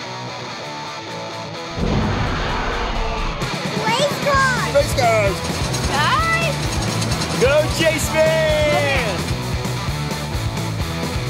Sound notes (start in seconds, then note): 1.7 dinosaur roar